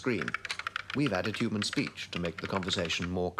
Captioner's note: keyboard clacking